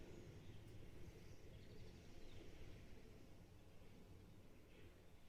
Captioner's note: birds chirping